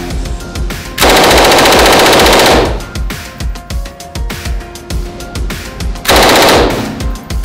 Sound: gun firing; gun firing rapidly in long burst; gun firing

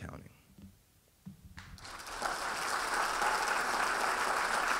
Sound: audience applauding

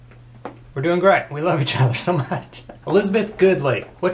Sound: laughs

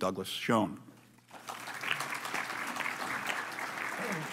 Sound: applause

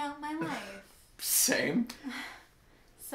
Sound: laugh

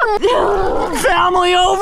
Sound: growls

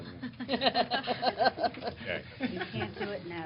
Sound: laughter

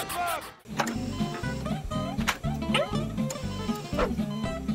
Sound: squeaking; beeping

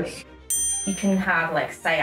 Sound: ding

